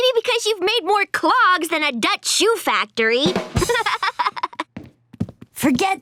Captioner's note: laughing